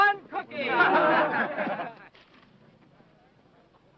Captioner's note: men laughing